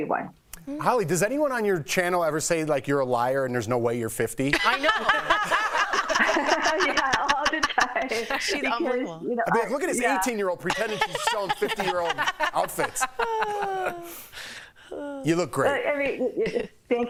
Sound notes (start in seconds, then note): 10.6 laughter